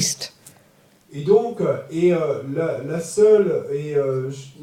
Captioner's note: French